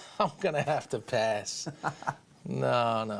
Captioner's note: chuckles